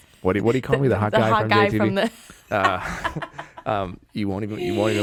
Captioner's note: laughing